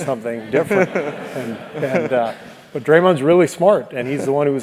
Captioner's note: laugh